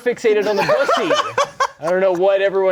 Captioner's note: laughing